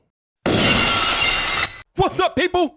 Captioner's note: glass breaking